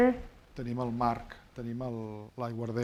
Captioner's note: speaking spanish